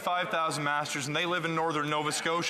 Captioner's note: speaking French